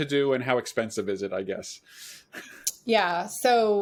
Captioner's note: chuckles